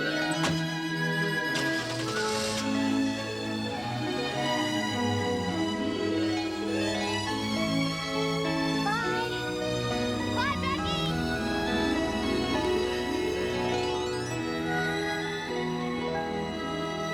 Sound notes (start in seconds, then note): 2.0 car engine cranking; 12.5 calm music